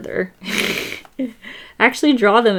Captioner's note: laughs